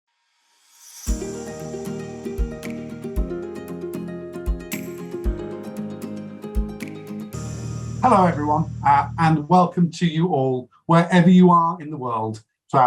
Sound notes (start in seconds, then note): 1.0 intro sound